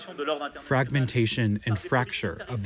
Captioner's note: through translator